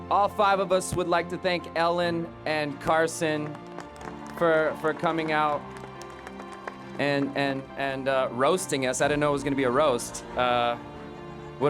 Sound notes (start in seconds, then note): 3.2 audience clapping